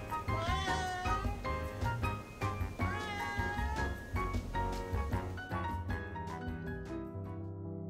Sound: exasperated; meow

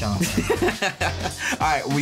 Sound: giggles

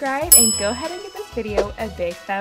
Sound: ding

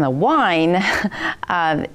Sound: laughs

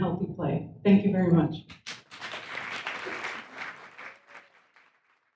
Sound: audience applauds

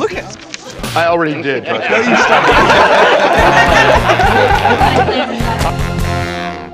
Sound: laughter

